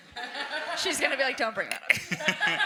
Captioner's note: audience and panelists laugh